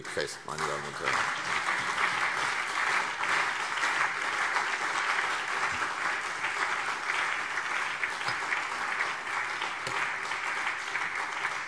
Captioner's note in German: Anhaltender Beifall CDU und BÜNDNIS 90/DIE GRÜNEN